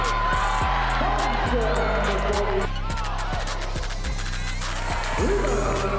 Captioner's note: crowd cheers; crowd drowns out announcer